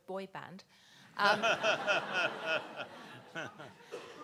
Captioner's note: people laughing